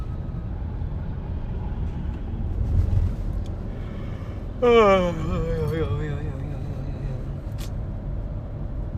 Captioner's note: yAwN